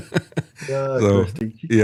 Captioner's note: laughs